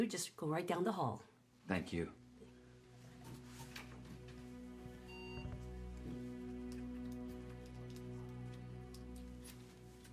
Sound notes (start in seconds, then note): 3.4 equipment beeping